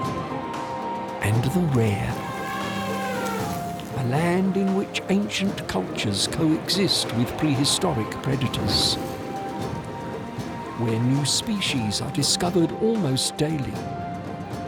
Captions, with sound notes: -and the rare. -[elephant trumpets] A land in which ancient cultures coexist with prehistoric predators. Where new species are discovered almost daily.